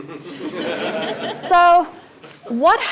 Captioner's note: laugh